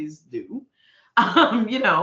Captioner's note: laughing